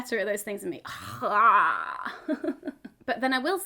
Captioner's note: chuckles